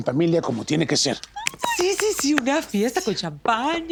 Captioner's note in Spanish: aplauso